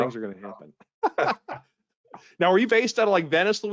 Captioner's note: both laughing